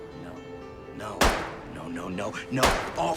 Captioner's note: gunshot